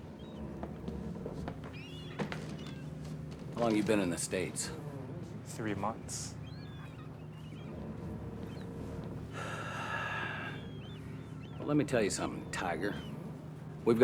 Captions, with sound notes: How long you been in the States? - Three months. (sighs) - Well, let me tell you something, Tiger.